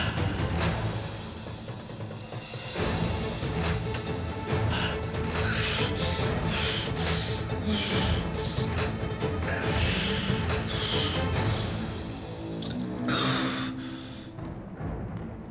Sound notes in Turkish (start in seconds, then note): 4.9 Hızlı nefes alıp veriyor; 7.8 Gerilim müziği